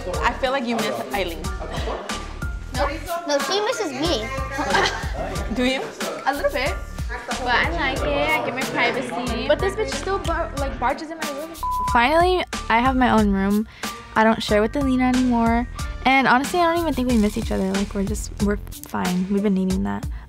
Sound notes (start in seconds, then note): 4.4 laughs; 11.6 beep